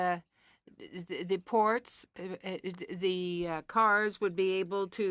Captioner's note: speaking French